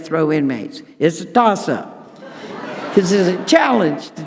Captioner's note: audience laughing